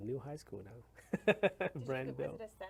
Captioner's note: laughs